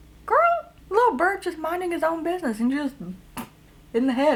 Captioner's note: splat